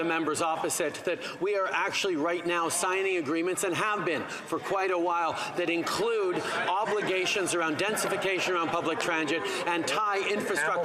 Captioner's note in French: voix de l'interprète